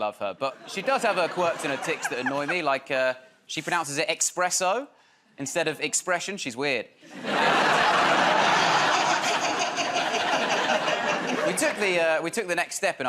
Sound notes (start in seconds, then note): 8.6 laughter